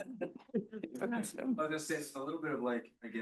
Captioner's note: students chuckling; speaks faintly